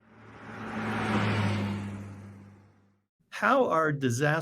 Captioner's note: car accelerates